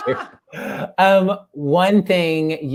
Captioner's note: laugh